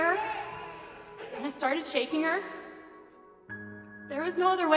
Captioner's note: baby crying